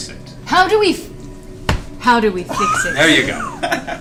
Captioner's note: lowers voice